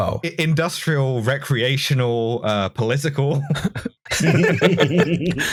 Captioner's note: laughter